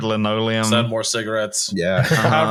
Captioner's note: laughs